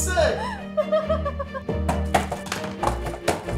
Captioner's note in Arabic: يضحك